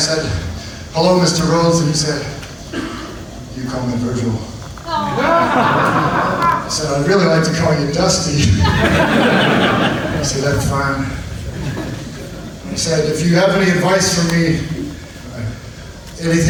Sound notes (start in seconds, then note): 4.9 audience laughs; 8.3 audience laughs